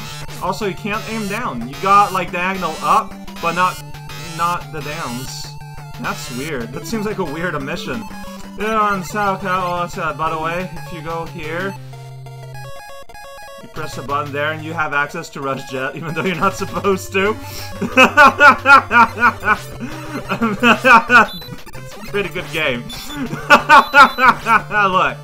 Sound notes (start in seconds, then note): 17.4 laughing; 22.9 continues laughing